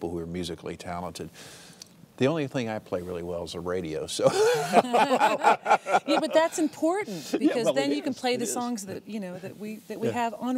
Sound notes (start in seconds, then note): 4.2 laughter